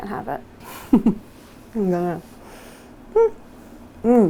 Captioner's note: giggles